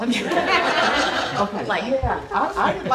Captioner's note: laughter